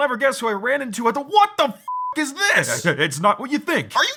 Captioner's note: beeping